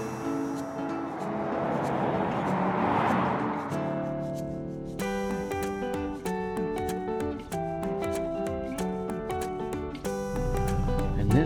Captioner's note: gentle upbeat music; traffic roaring